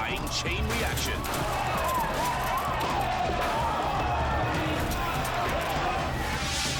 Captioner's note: bikers crashing; crowd shouting